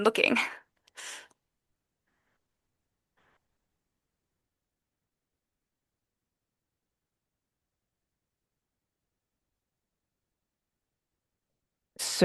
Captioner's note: silence